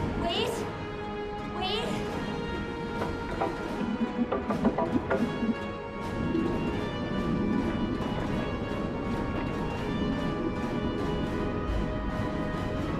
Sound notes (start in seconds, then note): 2.6 Jess knocking; 5.6 water bubbling